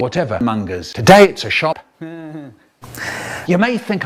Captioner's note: heeuh